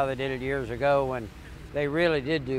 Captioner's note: none